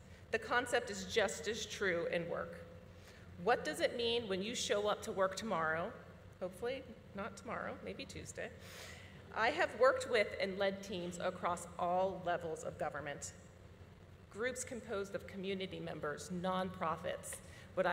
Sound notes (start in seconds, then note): none